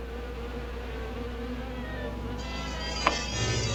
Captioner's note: buzzing; mysterious music